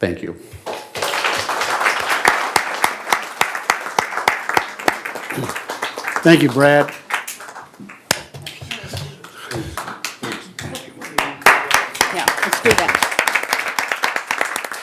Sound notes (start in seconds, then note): 2.8 applause